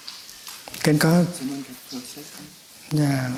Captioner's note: Vietnamese